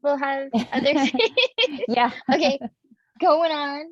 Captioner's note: laughing